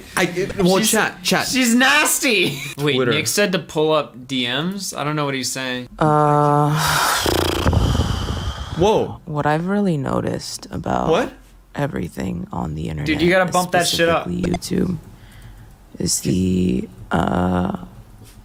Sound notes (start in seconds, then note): 2.3 laughs; 6.0 sighs